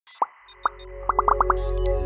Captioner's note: bright music; bubbles popping